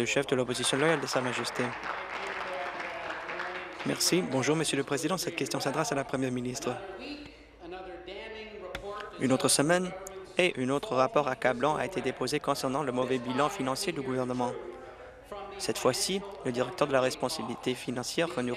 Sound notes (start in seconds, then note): 4.5 applause